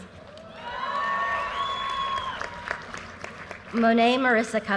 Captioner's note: audience cheers and applause